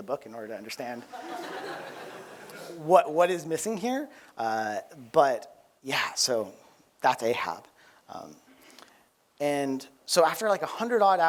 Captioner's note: laughter